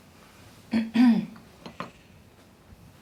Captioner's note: clearing throat